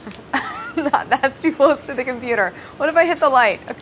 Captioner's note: laughing